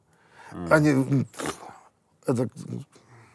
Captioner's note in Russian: фыркает